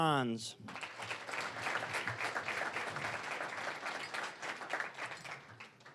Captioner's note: applause